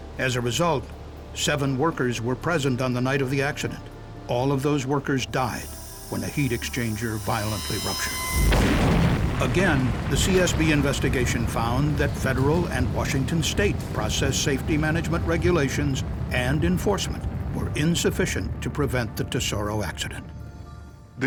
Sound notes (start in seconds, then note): 8.1 sound of explosion